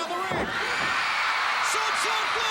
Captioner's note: crowd cheering